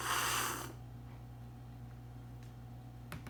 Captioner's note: slurping